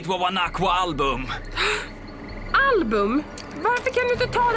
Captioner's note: gasps